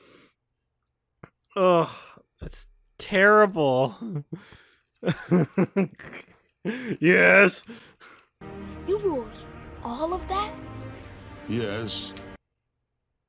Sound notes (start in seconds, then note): 5.0 laughs; 6.9 mocking